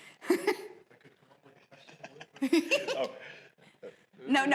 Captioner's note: laughing